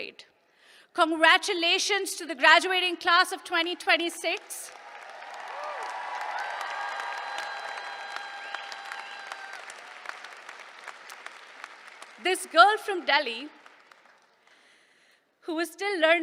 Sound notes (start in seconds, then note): 3.9 applause